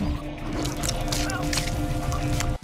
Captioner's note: bones crunching